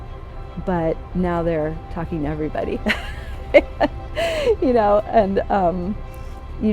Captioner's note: laughs